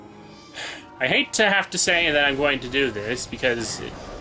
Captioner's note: sigh